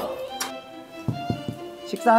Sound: knock knock

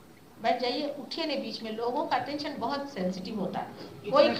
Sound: speaks in Hindi

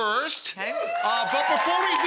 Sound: audience cheers

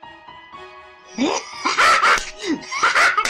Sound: evil laugh; slap

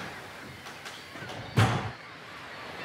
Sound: door slamming

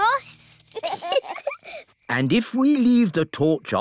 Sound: both giggle

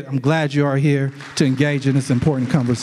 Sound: audience applauds

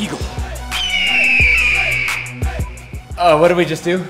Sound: eagle cries

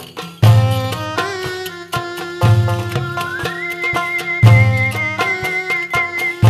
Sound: none

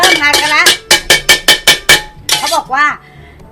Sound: pan cluttering sound

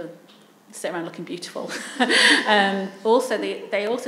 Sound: laughs

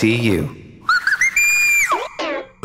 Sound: chirping

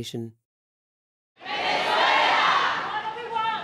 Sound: crowd

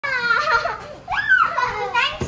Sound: gleeful laughter

